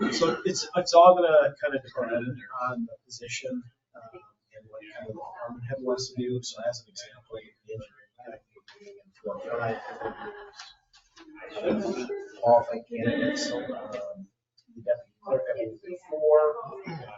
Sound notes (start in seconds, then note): 9.4 speaks distantly